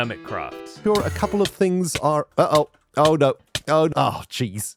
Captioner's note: damage noises